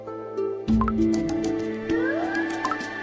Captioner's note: continuous enthusiastic applause